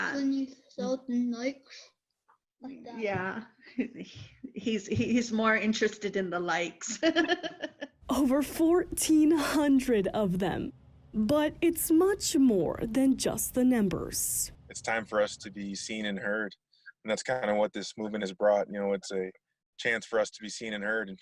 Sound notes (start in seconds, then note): 6.9 laughs